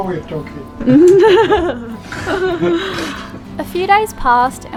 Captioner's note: laughs